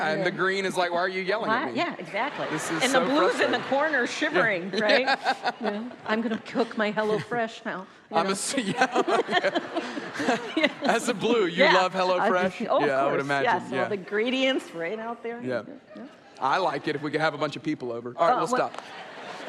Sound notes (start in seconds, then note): 6.4 audience laughs; 8.5 laughs